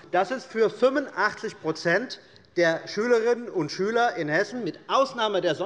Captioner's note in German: none